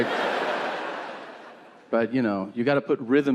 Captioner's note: audience laughing